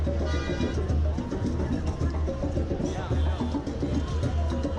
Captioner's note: cars honking